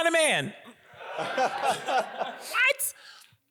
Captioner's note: audience laughs